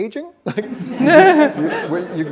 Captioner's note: laughter